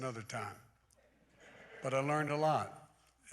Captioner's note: laughter